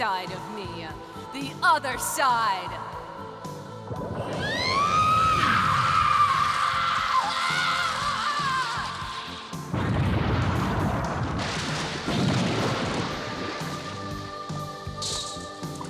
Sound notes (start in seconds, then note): 4.3 screams; 9.7 explodes